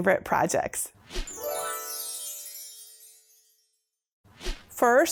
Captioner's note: stars twinkling; air whooshing